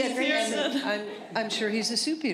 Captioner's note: laughter